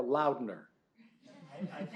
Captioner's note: laughter